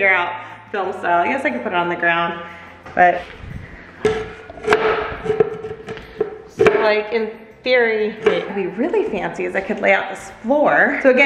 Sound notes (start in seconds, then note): 4.0 tile clacking